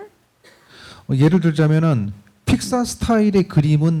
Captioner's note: speaking korean